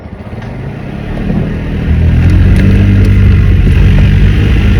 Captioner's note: both engines reeving